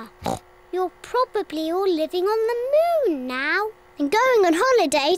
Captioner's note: oinks